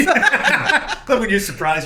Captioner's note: laughing